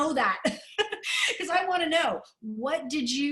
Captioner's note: laughter